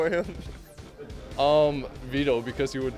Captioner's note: laughing